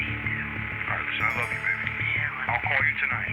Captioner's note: on phone